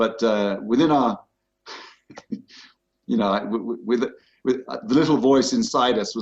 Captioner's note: chuckles